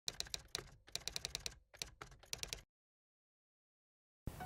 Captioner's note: typewriter keys tapping